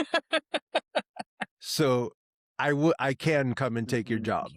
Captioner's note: laughing